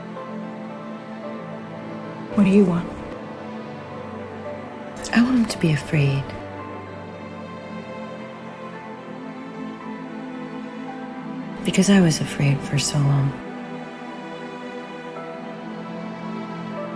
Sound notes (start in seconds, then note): 2.3 voiceover